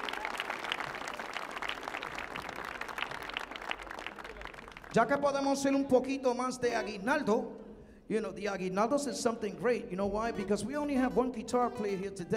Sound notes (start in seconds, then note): 5.0 man speaking in Spanish; 8.6 speaking in Spanish